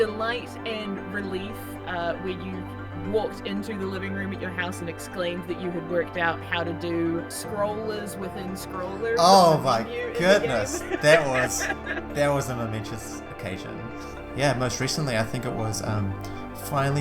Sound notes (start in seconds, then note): 9.8 laughs